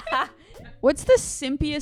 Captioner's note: chuckles